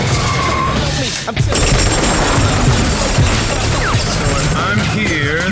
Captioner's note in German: Schüsse